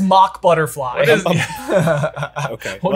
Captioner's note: all laugh